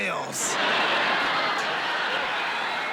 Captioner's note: laughter